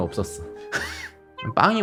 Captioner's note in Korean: 풉ㅋ